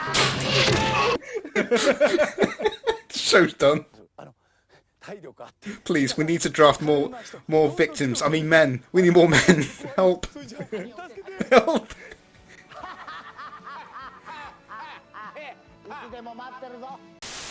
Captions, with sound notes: *Laughs* The shows done. 'Please! We need to draft more victims, I MEAN MEN, we need more men! HELP!' 'HEELLPP!' *Laughs in Beat Takeshi*